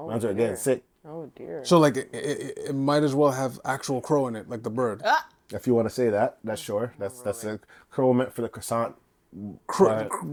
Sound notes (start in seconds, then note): none